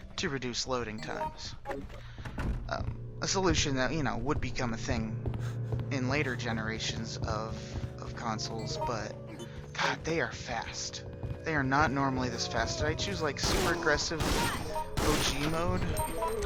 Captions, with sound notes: to reduce loading times. A solution that would become a thing in later generations...of...consoles. [Sounds of zombies on stairs] But...god they are fast! They are not normally this fast. Did i choose like, super aggressive... O.G. Mode?